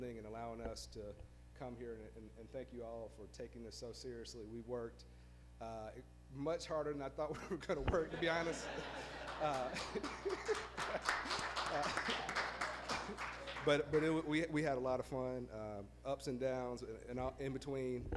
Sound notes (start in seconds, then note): 8.0 laughs; 8.8 applause